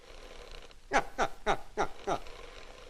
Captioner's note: laughs